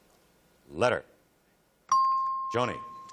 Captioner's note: ping